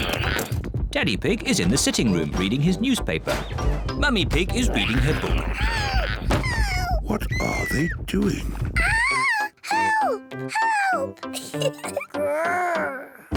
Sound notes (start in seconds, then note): 5.5 loud banging; 10.6 giggles